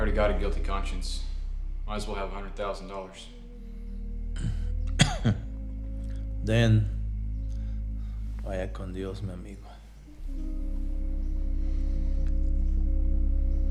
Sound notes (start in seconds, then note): 6.8 speaking in foreign language